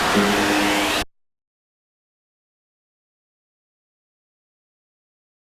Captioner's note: the noise cuts off